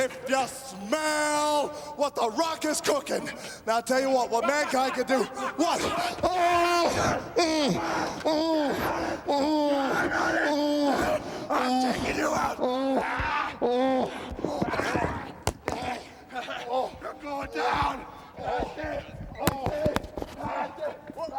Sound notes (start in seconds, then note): 7.0 grunting; 13.7 The Rock and Mankind clattering